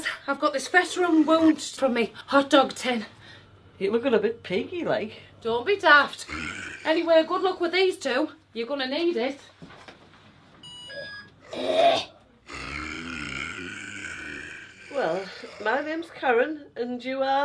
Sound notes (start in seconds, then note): 12.4 zombies growl; 12.4 snarls